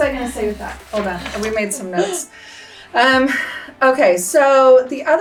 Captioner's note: laughs